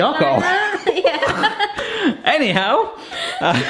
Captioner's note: both laughing; laughing